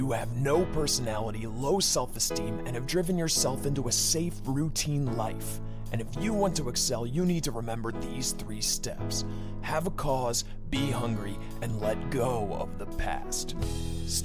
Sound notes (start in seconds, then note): none